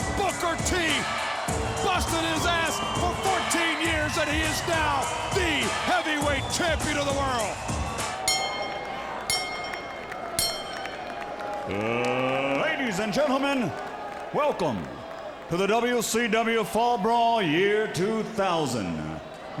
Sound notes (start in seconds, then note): 8.2 bell dinging